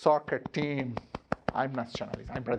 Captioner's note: hand slapping